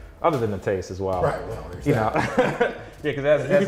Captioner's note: laughs